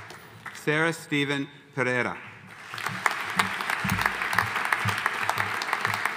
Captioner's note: audience applauding